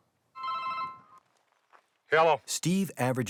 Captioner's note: phone ringing